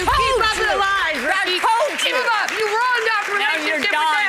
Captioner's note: all arguing